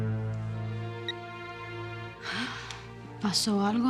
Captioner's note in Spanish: Suena celular